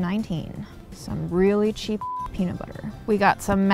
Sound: beep

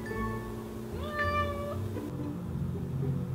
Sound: meow

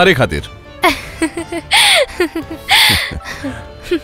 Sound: laughs

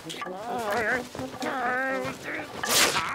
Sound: groaning

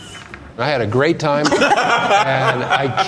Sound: laughing

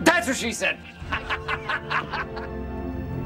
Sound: laughing

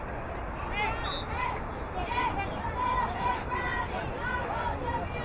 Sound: whistle blowing

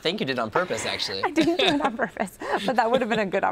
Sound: both laughing

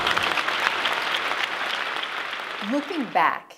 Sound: applause

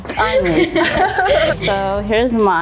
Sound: laughs

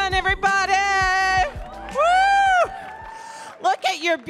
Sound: audience cheering

